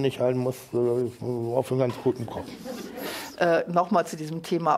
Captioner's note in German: nuschelt